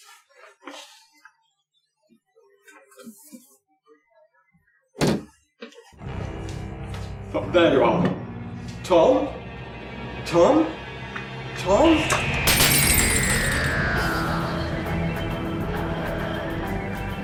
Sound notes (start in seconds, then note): 1.2 opening and closing cupboard door; 12.4 glasses shatter; 12.5 dropping tray